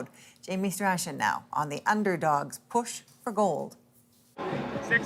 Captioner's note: crowd noise